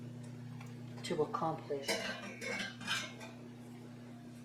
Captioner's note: sound of lid clanking back onto the piece